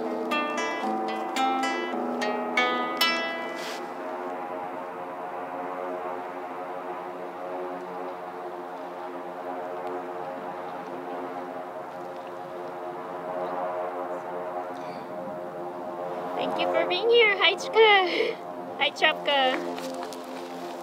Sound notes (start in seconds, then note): 5.2 sound of a plane